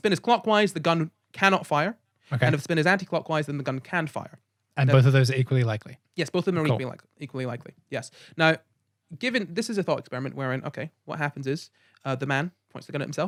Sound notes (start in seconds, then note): none